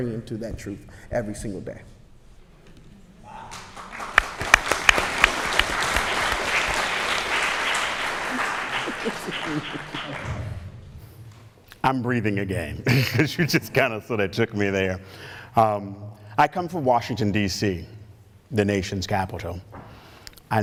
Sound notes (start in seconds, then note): 3.4 applause